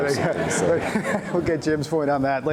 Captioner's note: laughter